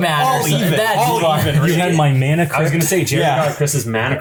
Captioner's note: everyone talking